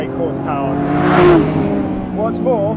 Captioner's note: car whizzes past